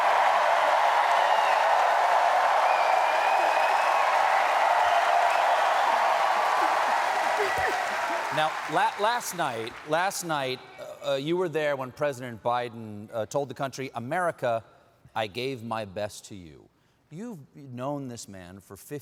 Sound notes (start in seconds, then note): 0.0 cheering